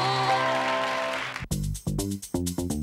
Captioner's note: cheers and applause